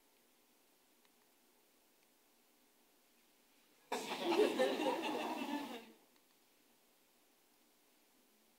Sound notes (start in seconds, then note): 3.9 audience laughing